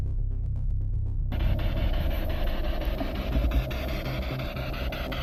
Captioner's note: static pulsing